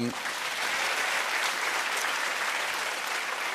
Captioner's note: applause